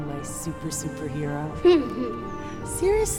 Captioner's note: Bryan laughs